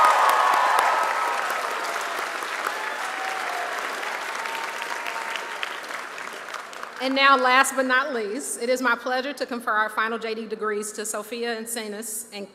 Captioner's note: cheers